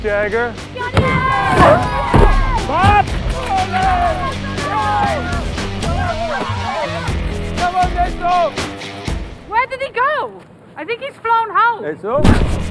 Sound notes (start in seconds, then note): 1.0 cheering; 1.5 grunting; 3.4 yelling